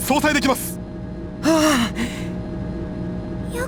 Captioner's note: sigh of relief